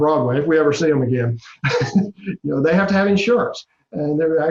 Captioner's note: laugh